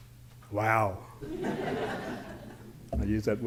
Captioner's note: laughter